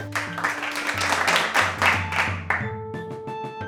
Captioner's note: scattered applause